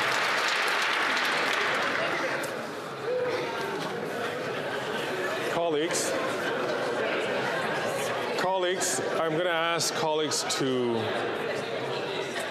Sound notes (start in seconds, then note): 1.6 applause